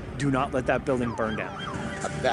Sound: siren

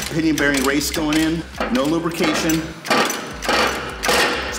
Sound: loud metal creaking

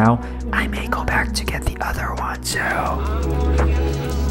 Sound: whispers

